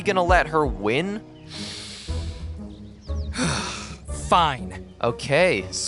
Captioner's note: inhales, exhales